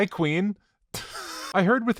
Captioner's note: wheeze laugh